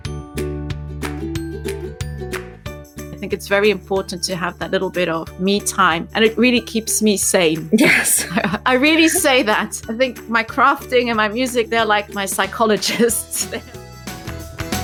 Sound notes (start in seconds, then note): 0.1 upbeat music; 7.7 laughing